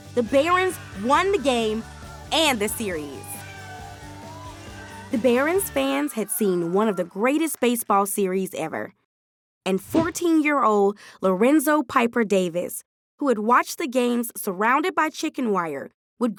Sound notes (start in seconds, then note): 3.1 audience cheering